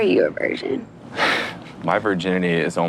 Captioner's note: laughs